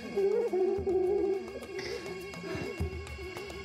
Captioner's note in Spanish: ambos ríen